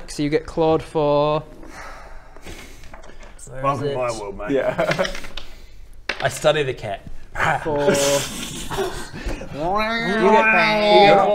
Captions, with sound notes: so you get clawed for *resigned sigh* Welcome to my world mate Yeah! I study the cat Rwarr! for... *Rrro-rrrooow*